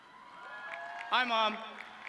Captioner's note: audience cheering